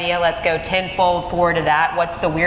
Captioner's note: none